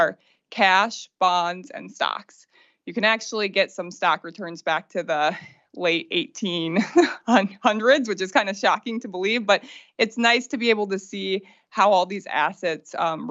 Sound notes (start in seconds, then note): 6.8 laughter